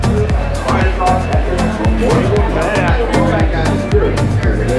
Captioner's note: people chattering